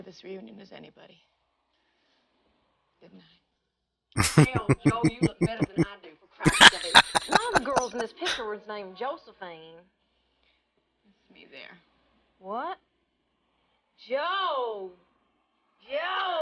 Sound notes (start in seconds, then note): 4.0 chuckling; 6.4 laughing